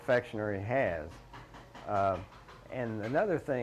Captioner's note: tool thudding